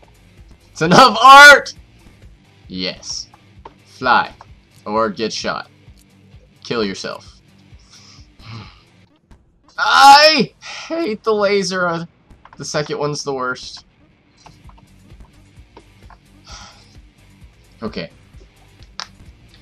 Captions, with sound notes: It's enough art! Yes. fly... or get shot. ...kill yourself. [sighs] I hate the laser, uh! The second one's the worst Okay.